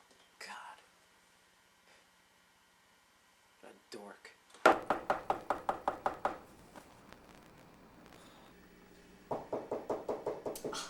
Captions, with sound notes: God. What a dork. [Door Knocks] [Rapid Door Knocking]